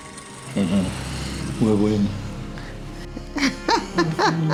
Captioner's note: speaking in Lusoga